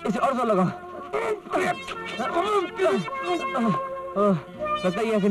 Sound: grunts

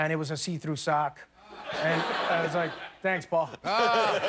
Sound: laughter

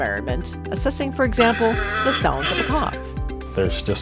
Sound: coughs

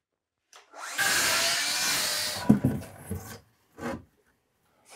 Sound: saw buzzing

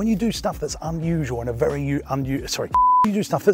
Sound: beep

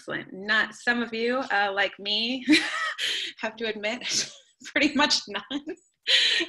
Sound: laughing

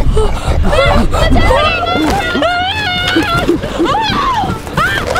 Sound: animal grunting; screaming; grunting and roaring; screaming

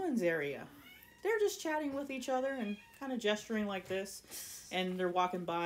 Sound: irl cats meowing

